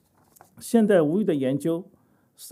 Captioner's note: speaking chinese